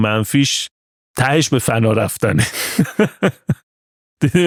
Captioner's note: laughs